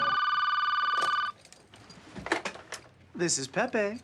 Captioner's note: phone ringing